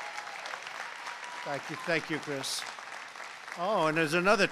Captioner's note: applause